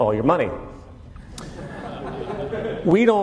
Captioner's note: laughter